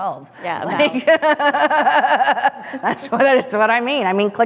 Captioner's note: laughs